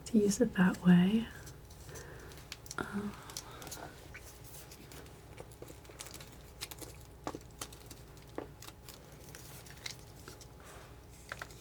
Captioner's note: sighs